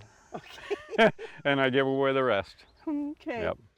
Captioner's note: chuckle